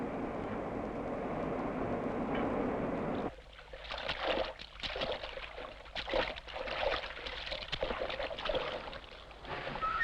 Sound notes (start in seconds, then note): 3.2 water sloshing